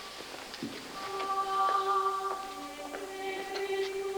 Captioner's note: chanting